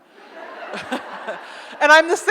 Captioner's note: audience laughs